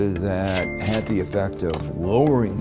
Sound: cash register ringing

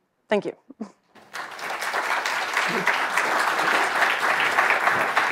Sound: audience applauding

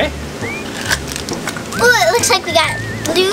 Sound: whistling

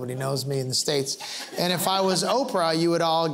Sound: laughter

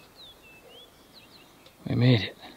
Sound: birds singing

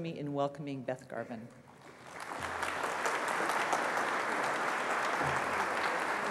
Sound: applause

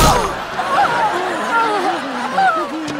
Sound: crashing; groaning

